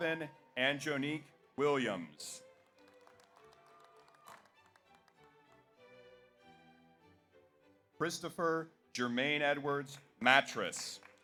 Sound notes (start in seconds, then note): 2.4 audience applauds; 3.6 audience cheers